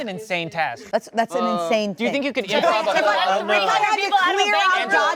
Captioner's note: overlapping chatter